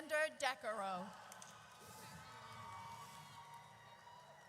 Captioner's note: audience cheers